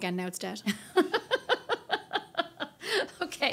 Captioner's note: laughing